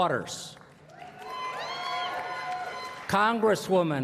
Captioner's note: applause